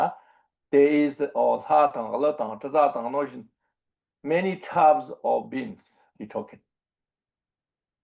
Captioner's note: tibetan